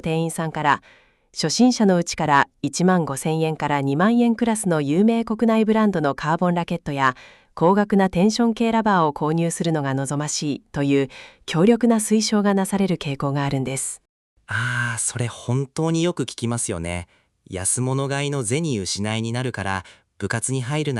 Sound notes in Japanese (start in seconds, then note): 14.5 ため息